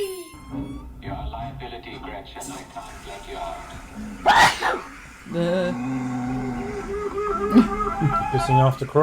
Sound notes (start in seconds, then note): 0.0 creaky door; 4.2 sneeze